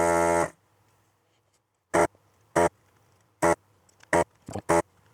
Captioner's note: buzzing